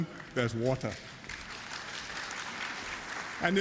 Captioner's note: applause